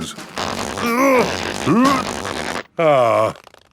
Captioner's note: grunting